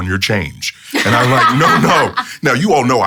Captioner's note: laughs